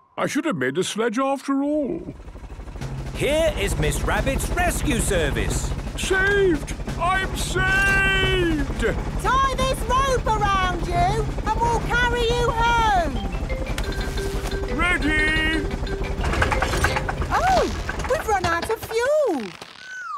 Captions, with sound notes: I should have made a sledge after all. - Here is Miss Rabbit's rescue service! - Saved! I'm saved!!! - Tie this rope around you and we'll carry you home! - Ready! (helicopter engine sputtering) - Oh, We've run out of fuel!